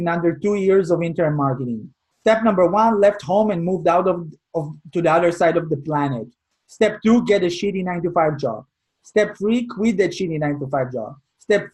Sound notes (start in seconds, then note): none